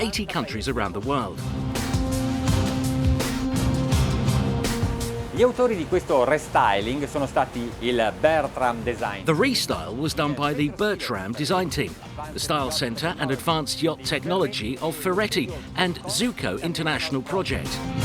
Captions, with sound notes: 80 countries around the world. (jubilant pop music) (speaking in foreign language) The restyle was done by the Betram design team. The style center and advanced yacht technology are Ferretti and Zuccon International Project.